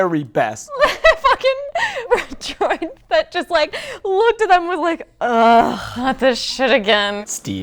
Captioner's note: laughing